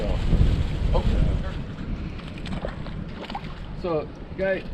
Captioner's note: fish splashing